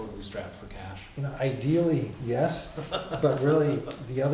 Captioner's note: background laughter